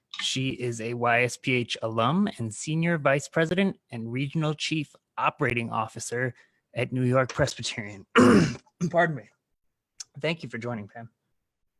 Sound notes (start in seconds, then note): 8.1 clearing throat